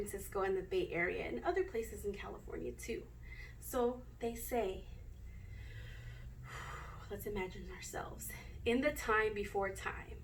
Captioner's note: takes deep breath in